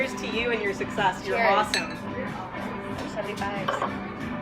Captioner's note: glasses clink